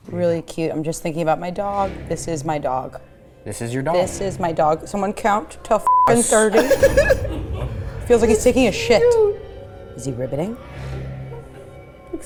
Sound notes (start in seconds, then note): 6.3 laughing; 10.8 tense music